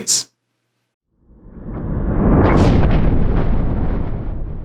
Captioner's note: thunder rumbling